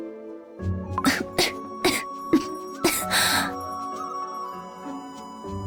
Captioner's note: cough cough